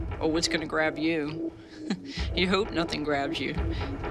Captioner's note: chuckles